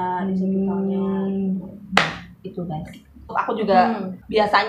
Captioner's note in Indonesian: clap